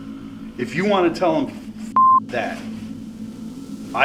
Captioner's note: beep